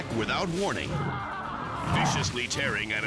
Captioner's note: man screaming